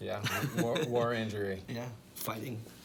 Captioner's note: laughs